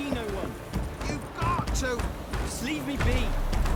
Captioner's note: pounding on door